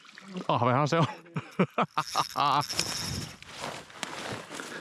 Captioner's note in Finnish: naurua